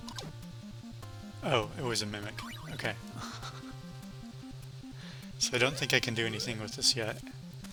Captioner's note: laughs